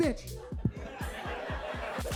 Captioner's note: upbeat music continues; audience laughing; upbeat music continues